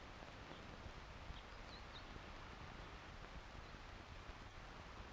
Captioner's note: birds chirping